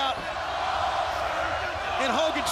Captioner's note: crowd cheering